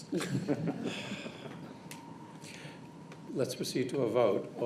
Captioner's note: laughter